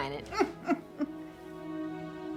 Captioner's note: laughs